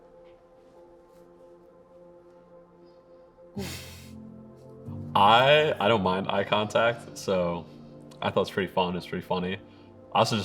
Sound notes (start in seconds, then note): 3.6 laughs